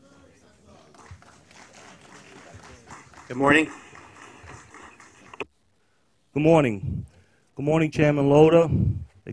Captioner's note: applause